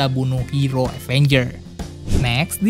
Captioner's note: transition sound